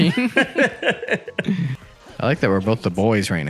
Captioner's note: both laugh